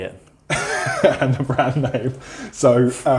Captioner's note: laughs